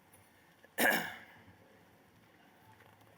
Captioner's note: throat clearing